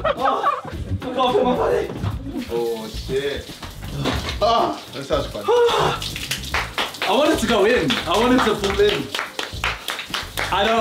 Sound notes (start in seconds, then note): 5.4 screaming; 9.0 hands clapping